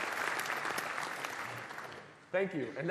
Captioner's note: applause